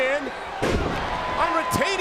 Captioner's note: wrestlers thudding